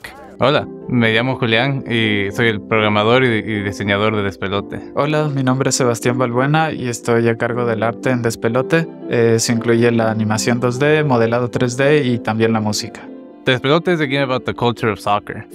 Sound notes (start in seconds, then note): 0.2 in Spanish